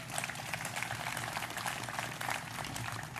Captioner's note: applause